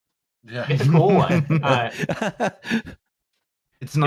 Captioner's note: laughs